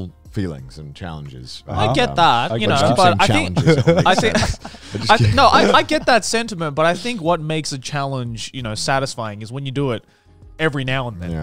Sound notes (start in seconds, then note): 2.5 laughing